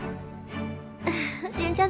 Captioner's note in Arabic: ضحك